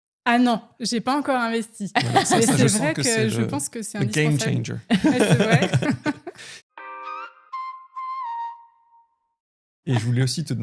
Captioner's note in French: rires